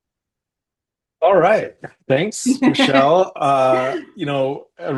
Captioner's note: chuckles